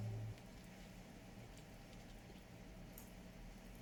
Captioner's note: happy smacking ensues